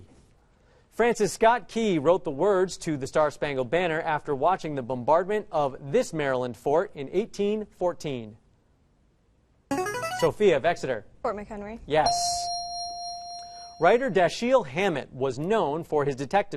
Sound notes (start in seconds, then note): 9.7 answer bell; 12.0 correct answer chime